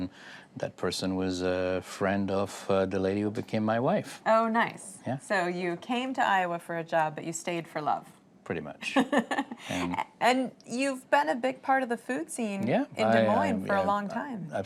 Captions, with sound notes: person was a friend who became my wife. >> Oh, nice. job, but you stayed for love? >> Pretty much. >> (laughter) part of the food scene in Des Moines for a long time.